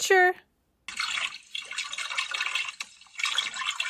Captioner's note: water gurgles